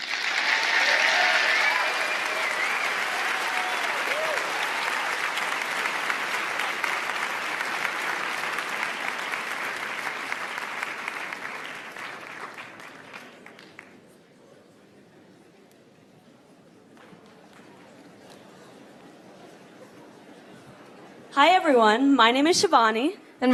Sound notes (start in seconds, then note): 3.4 applause